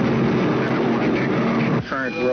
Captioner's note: radio chatter